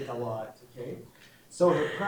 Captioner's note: laughing